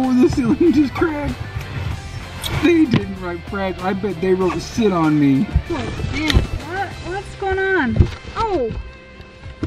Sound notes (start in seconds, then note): 7.8 box rustling